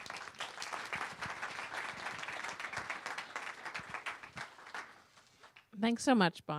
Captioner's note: applause